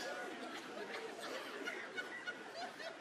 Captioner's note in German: Vereinzelt anhaltendes Lachen